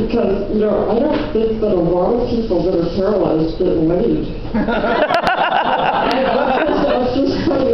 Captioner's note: laughter